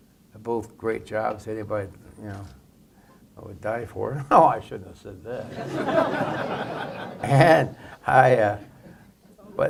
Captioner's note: laughter